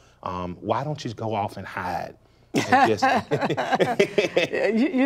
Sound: laughs

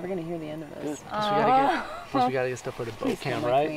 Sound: chattering

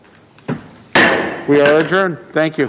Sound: gavel thuds

